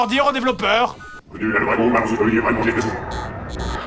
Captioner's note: demonic voice